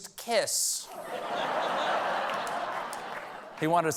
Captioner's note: laughter